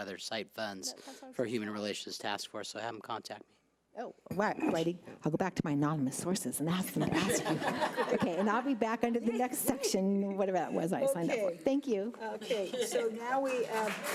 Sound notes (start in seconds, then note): 6.9 group laughs; 13.3 audience applauds